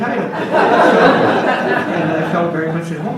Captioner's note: audience laughs